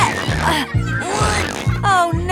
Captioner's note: grunting